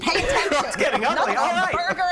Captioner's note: laughter